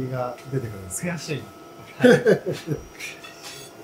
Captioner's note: laughs